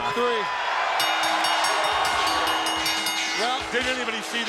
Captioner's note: referee tapping; bell ringing